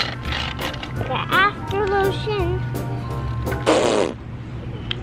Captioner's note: squirts